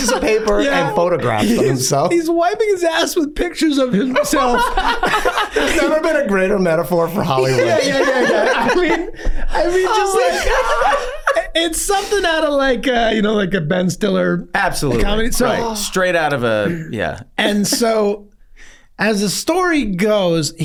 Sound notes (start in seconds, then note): 3.8 Glenn laughs; 10.2 gang laughing